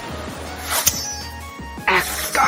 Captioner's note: clink